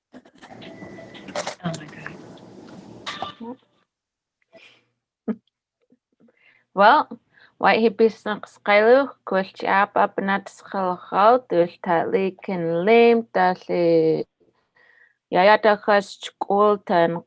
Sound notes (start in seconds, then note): 4.4 foreign Language